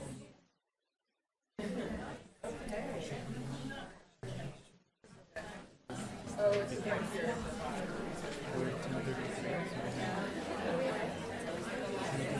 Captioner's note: crowd discussing